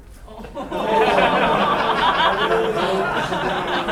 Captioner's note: laughing